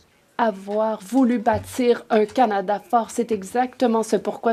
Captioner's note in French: voix de l'interprète